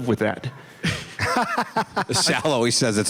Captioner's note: laughs